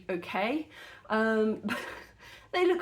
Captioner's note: laughing